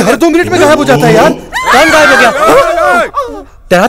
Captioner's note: Screams